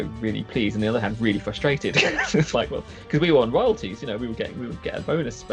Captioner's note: laughs